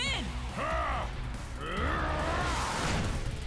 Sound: roaring

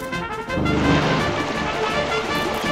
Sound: water gushing

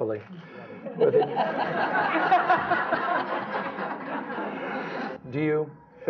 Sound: laughter

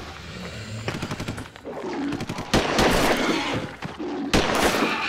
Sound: guns blasting

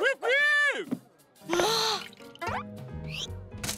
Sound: sighing

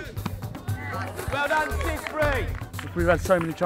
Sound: clapping

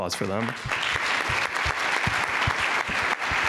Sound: applause

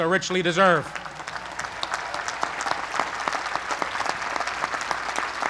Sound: applause

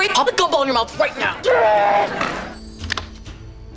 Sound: groaning

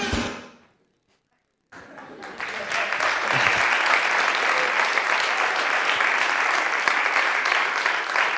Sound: applause

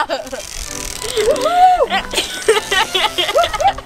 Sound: girl giggling

